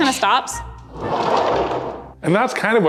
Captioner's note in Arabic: خشخشة العجلة